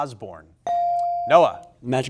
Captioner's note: buzzer chimes